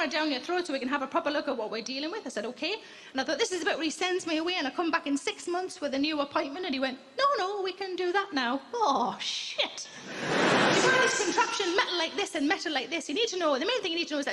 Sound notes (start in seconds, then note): 10.0 crowd laughing